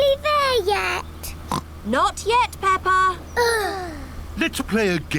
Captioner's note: oinks; both sigh